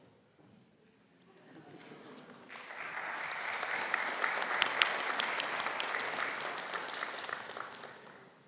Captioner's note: applause